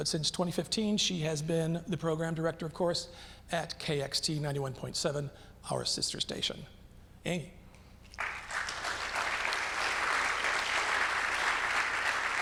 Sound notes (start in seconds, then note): 8.1 audience clapping